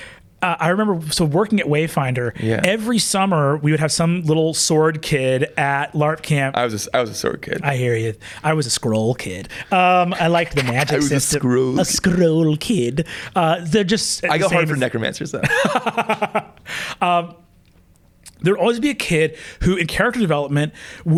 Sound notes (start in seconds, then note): 15.4 laughs